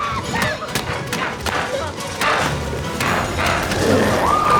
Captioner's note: dramatic music continues; Chalee shrieks